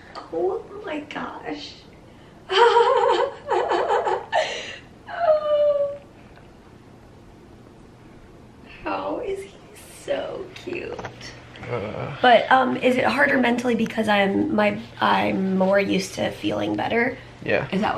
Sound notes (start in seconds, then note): 2.5 chuckling